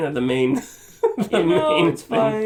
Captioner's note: laughter